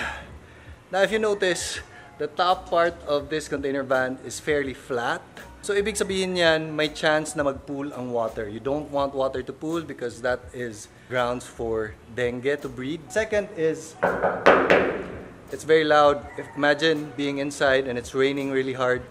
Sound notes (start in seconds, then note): 14.0 knocks